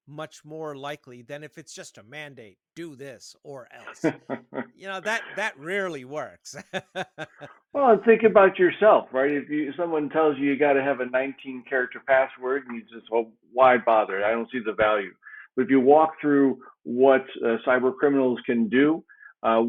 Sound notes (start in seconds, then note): 2.8 laughing